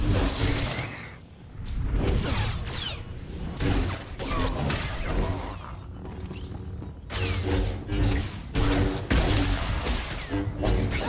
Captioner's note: gunshots